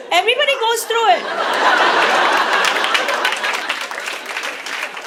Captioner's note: audience laughs